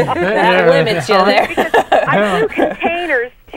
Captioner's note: laughing